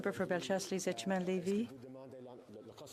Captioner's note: speaking French